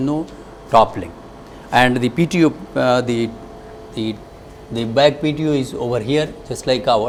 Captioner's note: engine